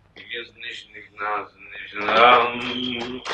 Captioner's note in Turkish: Sarhoş mırıltıları